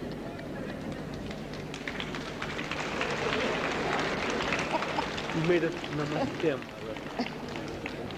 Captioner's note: clapping